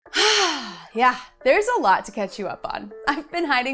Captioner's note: sighs